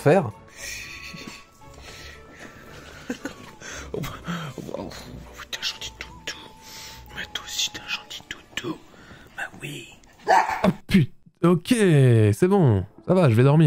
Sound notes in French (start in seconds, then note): 10.2 Aboiement